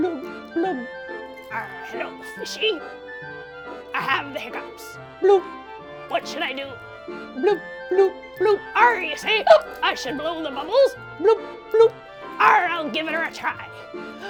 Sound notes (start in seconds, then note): 10.4 hiccups